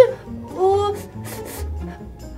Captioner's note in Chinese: 嗅聞聲